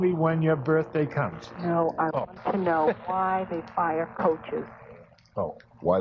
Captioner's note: laughs